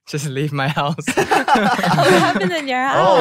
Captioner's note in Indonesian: tertawa